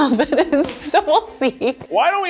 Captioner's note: laughs